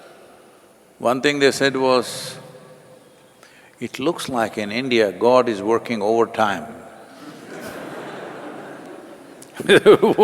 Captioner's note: laughter